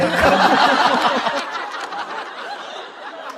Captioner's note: hahahahahahahaha!